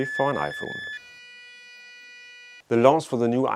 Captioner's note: logo beeps